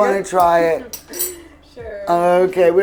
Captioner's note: laughs